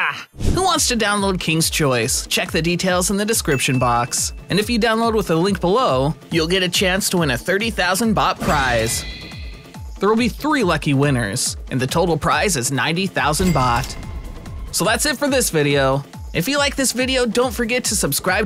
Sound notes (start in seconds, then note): none